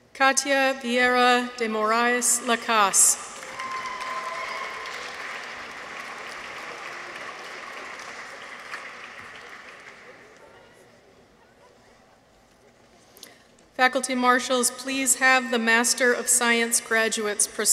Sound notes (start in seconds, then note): 3.3 people cheer; 3.3 audience applauds